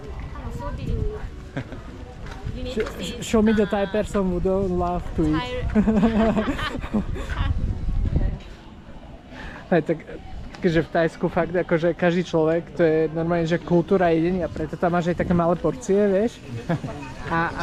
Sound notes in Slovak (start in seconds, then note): 5.8 smiech